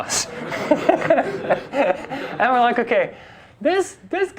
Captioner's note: class and instructor laugh